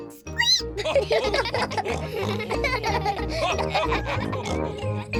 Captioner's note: all giggle; squeaks